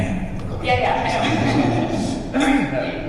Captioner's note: laughter